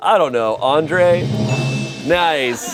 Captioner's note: bell chimes